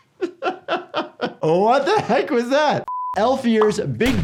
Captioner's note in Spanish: risas